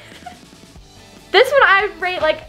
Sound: laughing

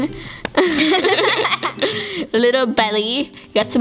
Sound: both laughing

